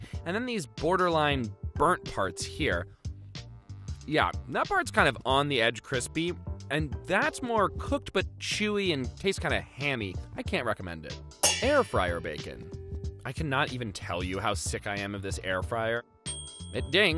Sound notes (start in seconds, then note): 11.4 pans clanging; 16.2 dinging